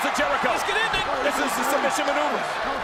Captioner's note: applause